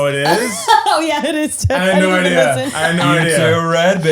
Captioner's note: laughing